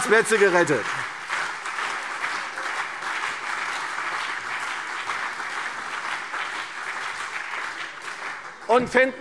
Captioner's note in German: Beifall CDU und BÜNDNIS 90/DIE GRÜNEN